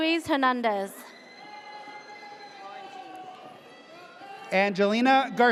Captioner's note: audience cheers